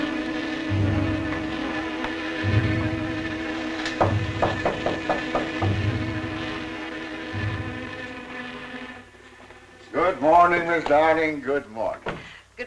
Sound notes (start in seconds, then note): 4.0 knocking